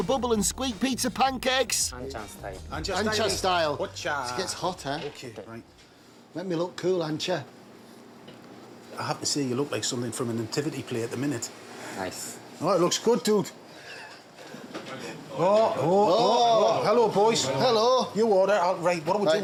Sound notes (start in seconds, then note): 13.8 chuckles